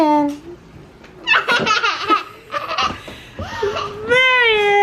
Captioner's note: child laughter